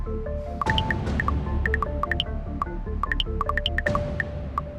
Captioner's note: text chirping